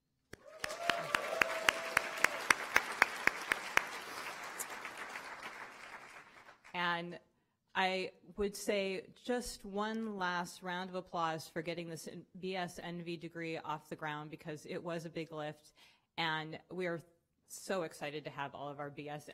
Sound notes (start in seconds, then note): 7.7 cheering & Applause